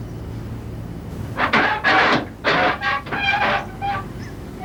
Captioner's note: creaking; more creaking